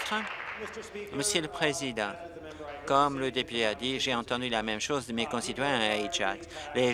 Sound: applause

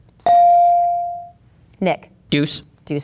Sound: bell dinging

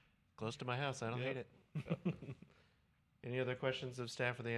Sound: laughter

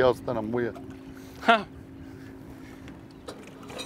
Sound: laughs

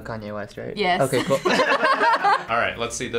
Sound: laughs

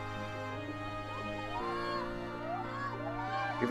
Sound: cheering

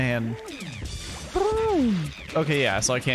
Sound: makes musical noise

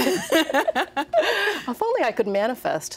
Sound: laughing

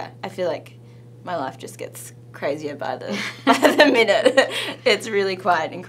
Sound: laughs

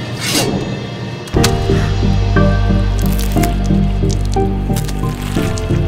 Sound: stabbing noises

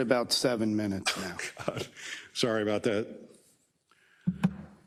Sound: laugh

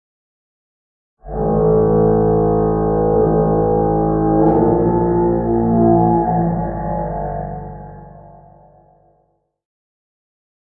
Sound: sound of alien horn

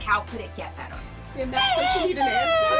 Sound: crying

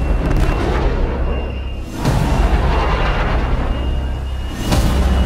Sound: plane engine roaring

